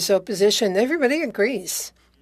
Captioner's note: speaking French